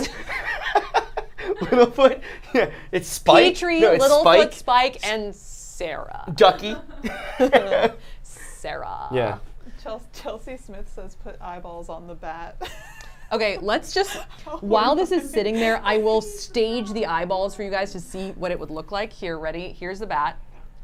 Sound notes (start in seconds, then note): 0.0 group laughs; 12.6 laughs